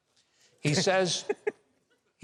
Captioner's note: chuckles